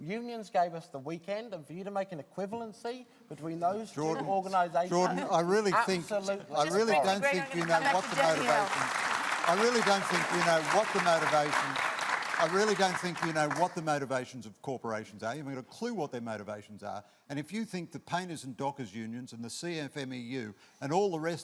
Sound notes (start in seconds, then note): 9.4 applause